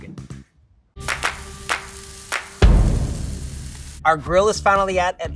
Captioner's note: grill sizzling; upbeat music